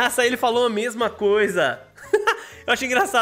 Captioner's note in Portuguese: risos